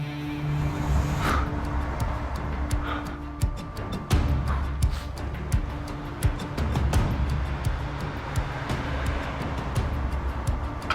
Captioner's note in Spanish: Ruido de algún vehículo